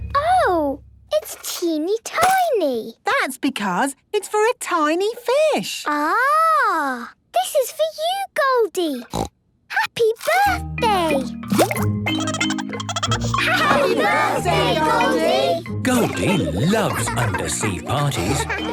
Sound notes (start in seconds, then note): 9.0 snorting; 12.1 Goldie giggling